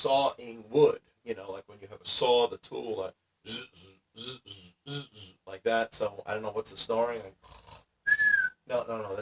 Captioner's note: snoring noises